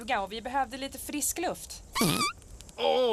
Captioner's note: owen farts